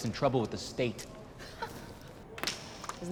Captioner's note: laughs